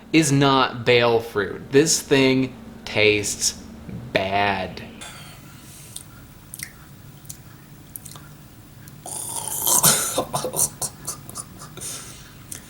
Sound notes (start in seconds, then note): 9.1 gagging noises and coughing